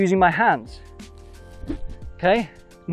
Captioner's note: golf club whooshing